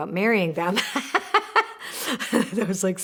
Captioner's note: laughing